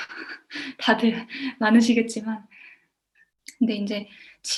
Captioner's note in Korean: 웃음